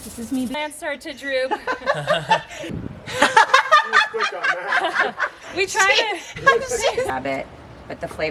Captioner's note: laughing